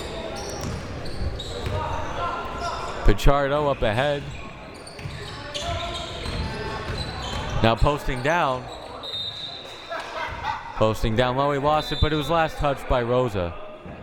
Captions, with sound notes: Pachardo up ahead. Now posting down. (whistle) Posting down, well we watched it but it was last touched by Rosa.